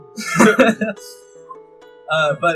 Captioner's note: laughter